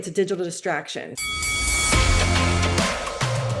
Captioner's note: bell ringing; upbeat music